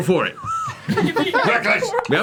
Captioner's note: all laugh